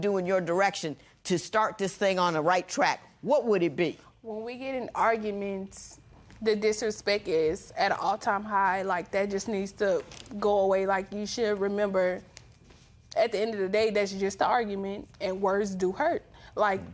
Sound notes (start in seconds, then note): none